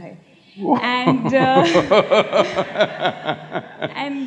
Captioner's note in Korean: 삿구루 웃음